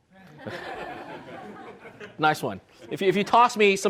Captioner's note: everyone laughs